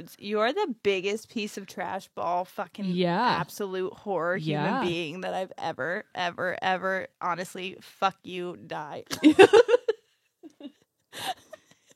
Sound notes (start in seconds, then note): 9.2 laughs